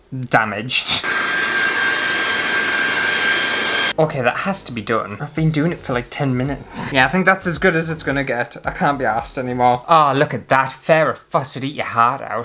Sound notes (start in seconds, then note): 0.8 hairdryer Blowing